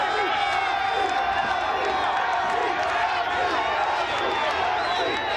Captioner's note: audience chanting